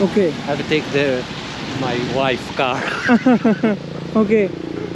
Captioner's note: chuckles